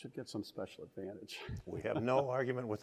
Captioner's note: laughter